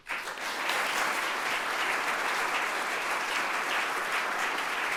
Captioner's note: audience applauding